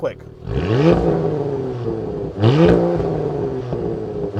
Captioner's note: engine revving